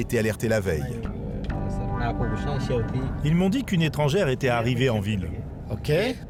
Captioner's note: people speaking foreign language